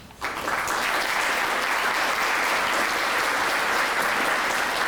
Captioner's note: applause